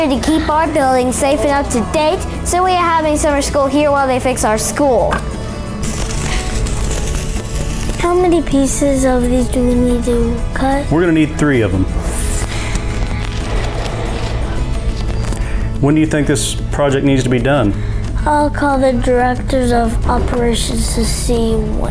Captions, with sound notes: to keep our buildings safe and up to date. So, we have summer school here while they fix our school. (knife cutting) - How many pieces of these do we need to cut? - We're going to need three of them. When do you think this project needs to be done? - I'll call the director of operations to see when.